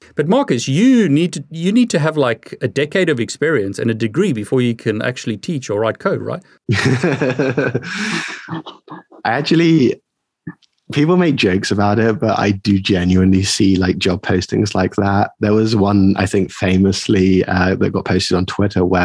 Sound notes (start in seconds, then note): 6.7 laughing